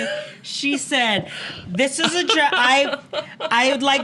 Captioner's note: giggles